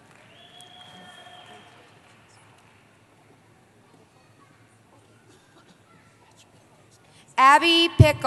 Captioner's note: cheering